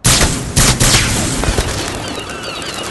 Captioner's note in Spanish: las gaviotas chillan y vuelan